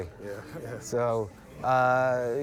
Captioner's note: chuckles